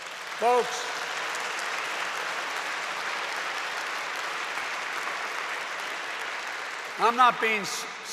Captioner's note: applause